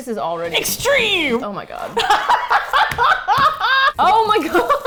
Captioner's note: laughing; laughs, smacks table